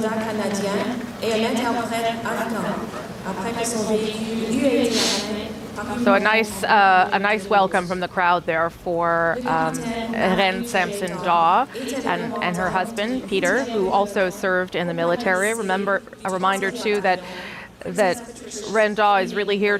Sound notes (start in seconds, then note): 0.7 speaking French